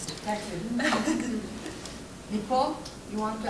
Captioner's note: group laughs